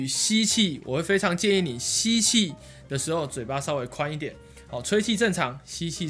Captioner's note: inhale